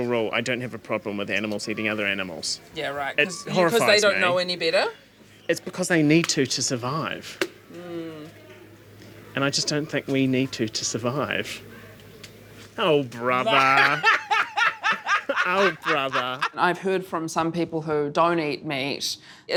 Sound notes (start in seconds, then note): 13.3 laughs